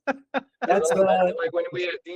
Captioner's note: laughing